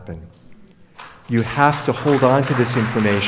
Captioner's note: audience applauds